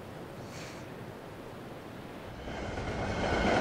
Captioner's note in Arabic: قعقعة القطار